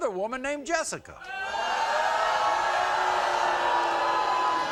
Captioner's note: crowd booing